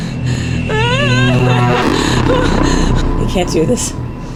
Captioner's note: alien trilling